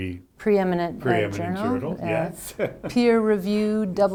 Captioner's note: laughs